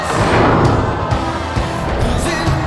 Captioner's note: thud and crowd cheers